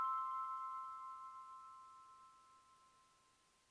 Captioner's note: bell chimes